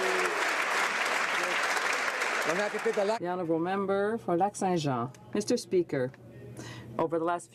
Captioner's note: some Applause